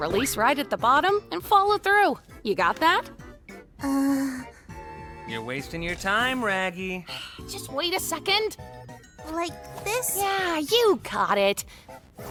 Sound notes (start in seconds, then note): 7.3 sighs